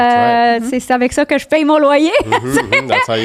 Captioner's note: in french